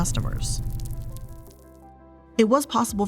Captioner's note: units crackling